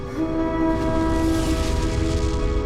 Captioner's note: horns blowing